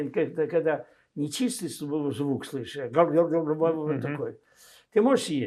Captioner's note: mumbling